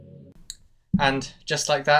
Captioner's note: Thanos snap